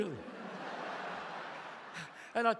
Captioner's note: audience laughs